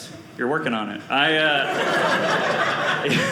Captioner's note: audience laughing